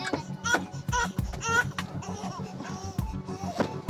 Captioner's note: crying